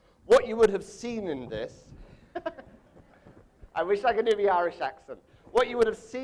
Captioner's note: laughs